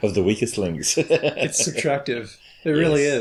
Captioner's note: laughs